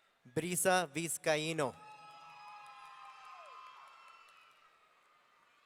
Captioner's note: audience cheering